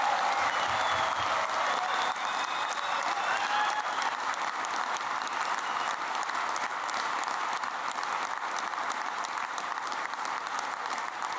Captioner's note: applause